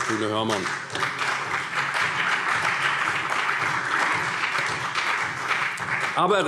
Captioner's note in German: Beifall CDU und BÜNDNIS 90/DIE GRÜNEN